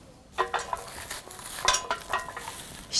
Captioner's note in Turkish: Zeytin düşme sesleri